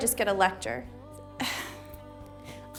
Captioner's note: exhales